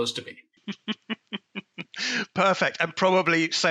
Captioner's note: chuckles